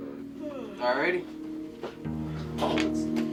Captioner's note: Nancy yawns; somber music